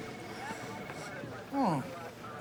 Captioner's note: sniffs